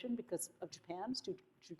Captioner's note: none